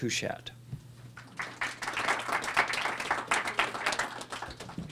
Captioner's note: applause